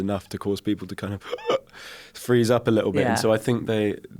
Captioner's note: gasps